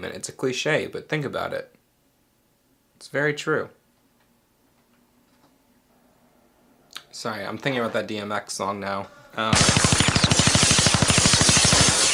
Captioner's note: gun shots